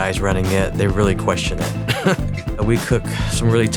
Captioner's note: chuckles